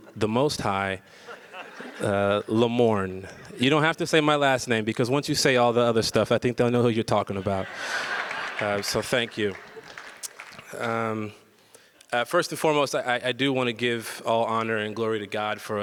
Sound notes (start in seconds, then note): 1.2 audience laughs; 7.4 audience laughs